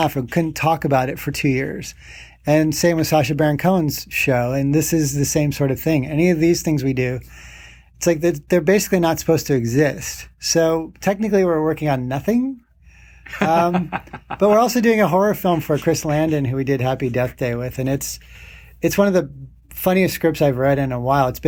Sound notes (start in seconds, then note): 13.2 laughing